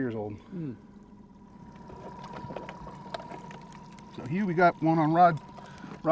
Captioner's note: boat engine idling